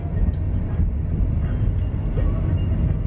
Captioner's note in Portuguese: som de carro